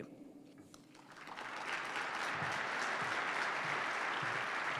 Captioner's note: participants clap